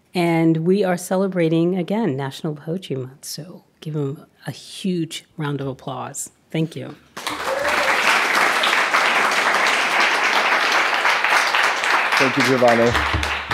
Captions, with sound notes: and we are celebrating, again, national poetry month so give him a huge round of applause, thank you. (audience applauding) Thank you Giovanni.